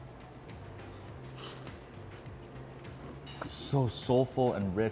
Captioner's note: slurping